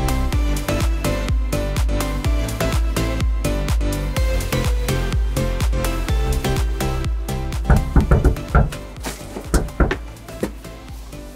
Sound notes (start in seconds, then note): 7.6 knocks on door